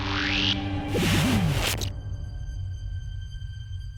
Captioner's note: fizzles out